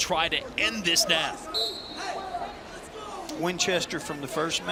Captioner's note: whistle blows